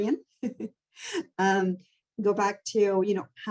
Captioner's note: chuckling